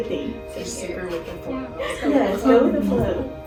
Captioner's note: all murmur